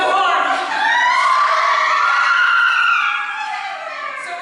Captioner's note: CHORUS screams with laughter